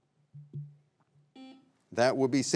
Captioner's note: buzzer beeping